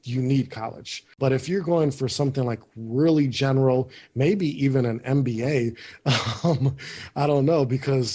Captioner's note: laughs